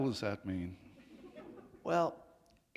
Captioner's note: laughter